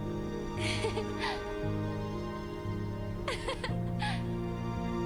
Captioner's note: giggles